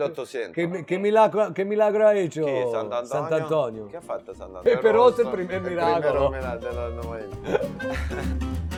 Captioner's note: conversing in Italian